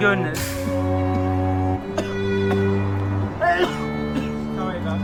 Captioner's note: tosiendo